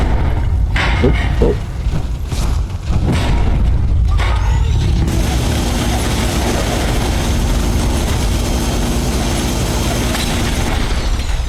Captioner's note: gunfire